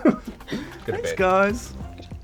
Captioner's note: laughs